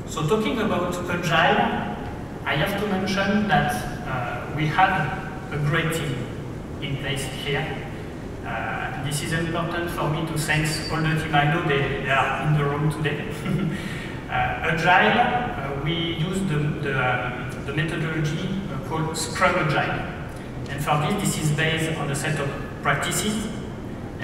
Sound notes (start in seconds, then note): 13.3 laughs